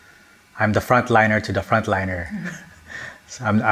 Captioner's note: chuckles